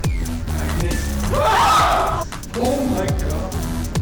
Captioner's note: screaming